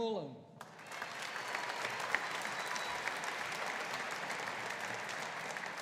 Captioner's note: audience applauding